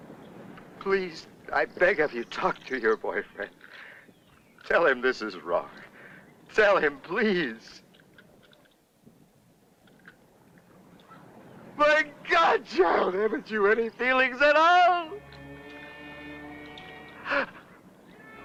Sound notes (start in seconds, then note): 11.7 yelling